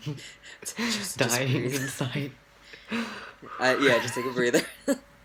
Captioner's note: laughs